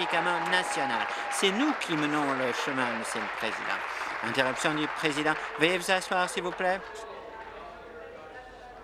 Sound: applause

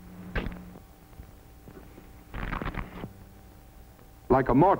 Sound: cracking sound

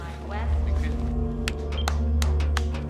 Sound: monkey clapping

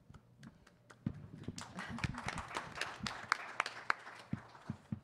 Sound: attendees applaud

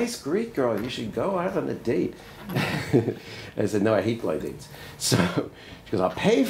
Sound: laughs

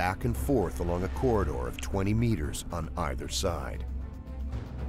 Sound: voiceover

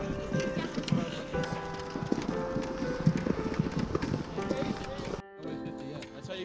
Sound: chattering; soft piano music

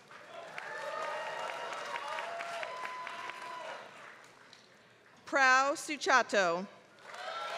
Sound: applause; applause

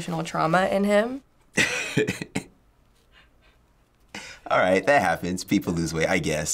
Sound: chuckles

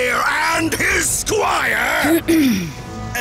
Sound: coughs

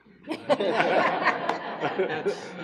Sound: laughing

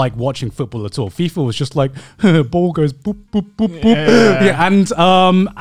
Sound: laughs

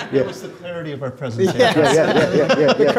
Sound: laughs

